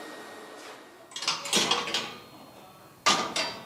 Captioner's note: metallic clanging